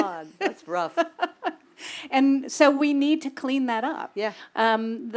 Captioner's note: laugh